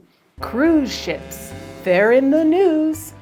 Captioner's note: horn blares